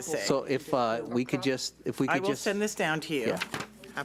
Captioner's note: speaks off mic